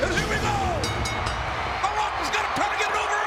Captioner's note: bell ringing